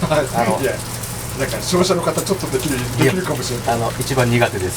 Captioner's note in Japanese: 英語